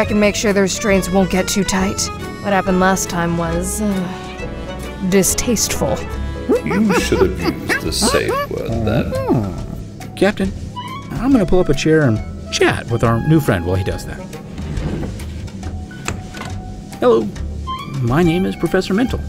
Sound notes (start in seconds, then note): 6.5 ape noises; 14.3 chair scraping